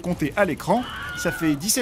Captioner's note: Wilhelm's scream